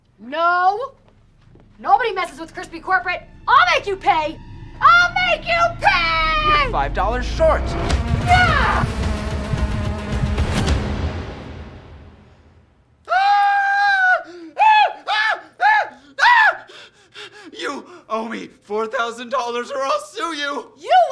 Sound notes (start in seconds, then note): 9.0 ominous music; 13.0 screaming